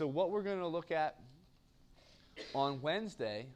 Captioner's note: cough